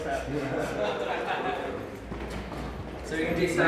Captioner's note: all laughing